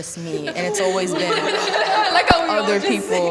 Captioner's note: strong laughter